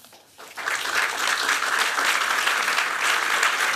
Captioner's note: applause